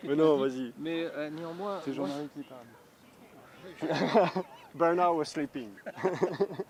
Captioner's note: laughter